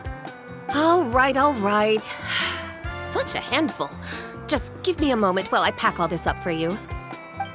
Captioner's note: sigh